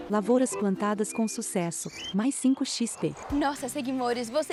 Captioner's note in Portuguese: Pássaros